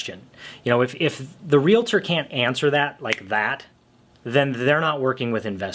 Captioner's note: snaps his fingers